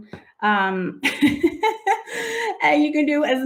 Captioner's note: laughing